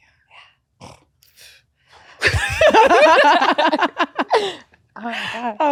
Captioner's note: both laughing